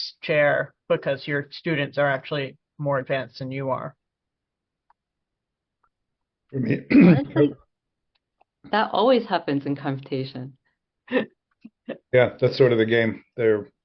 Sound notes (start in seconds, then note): 11.1 chuckles